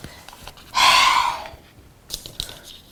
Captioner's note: sigh